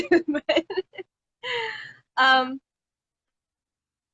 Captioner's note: laughs